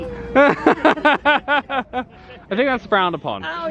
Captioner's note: laughing